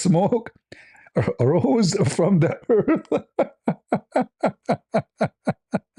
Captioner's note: ketawa